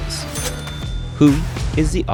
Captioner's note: cash register dings